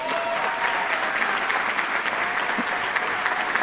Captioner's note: applause